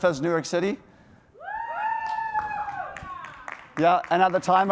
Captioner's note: cheering